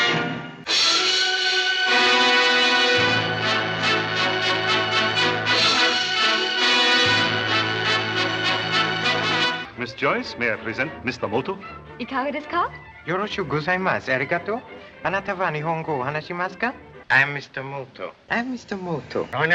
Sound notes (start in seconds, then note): 1.6 dramatic orchestral music; 12.0 Joyce speaking in foreign language; 13.1 Michiko speaking in foreign language